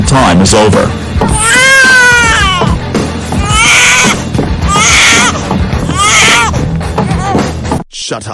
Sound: Rosie cries like a baby to her room

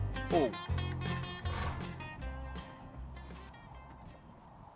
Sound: horse grunts

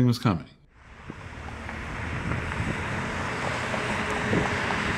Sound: car engine roaring

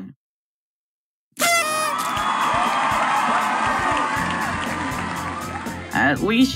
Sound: party horn; crowd cheer

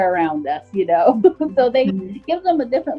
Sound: laughs

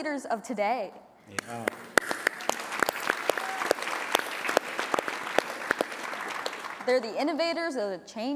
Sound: applause

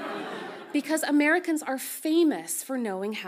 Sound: audience laughs softly

